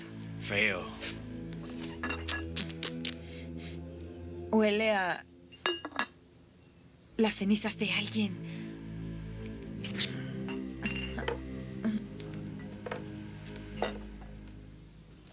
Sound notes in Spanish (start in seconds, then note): 9.4 fita rasgando; 12.1 música de suspense